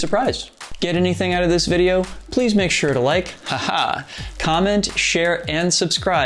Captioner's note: haha!